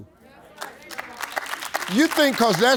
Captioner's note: audience clapping